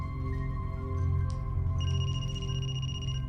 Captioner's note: phone ringing